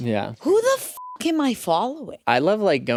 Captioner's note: beep